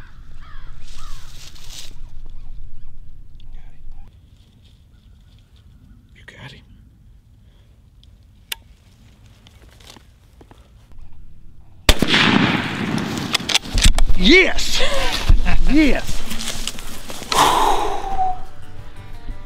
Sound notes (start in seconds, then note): 11.9 gunshot; 14.7 laughing